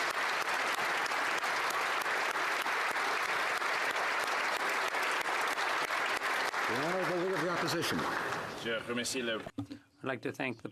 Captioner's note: applause